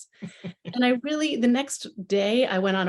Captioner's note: chuckles